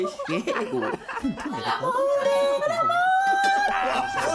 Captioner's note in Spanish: habla en italiano